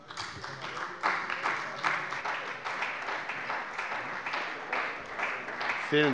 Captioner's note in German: Beifall bei der CDU